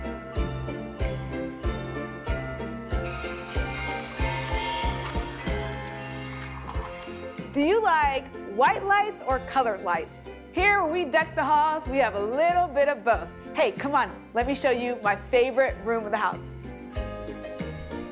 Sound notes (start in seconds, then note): 3.1 train whistle